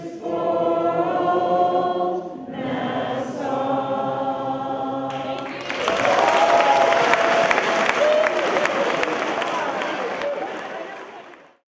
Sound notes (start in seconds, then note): 5.1 cheers, applause